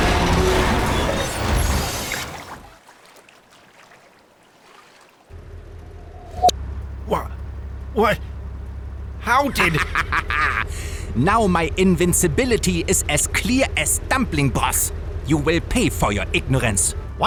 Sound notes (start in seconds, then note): 9.4 maniacal laughter